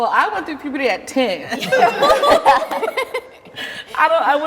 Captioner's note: everybody laughs